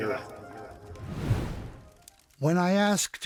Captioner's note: air whooshing